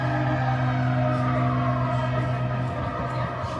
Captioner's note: siren and horns blare in distance; stops talking while horns blare in distance